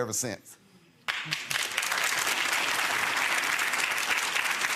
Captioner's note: audience applauds